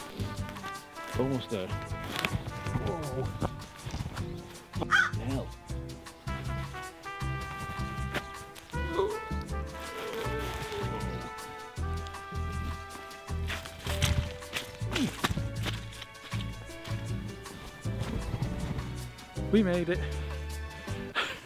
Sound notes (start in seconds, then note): 4.8 crow call; 8.7 groans; 21.1 laughs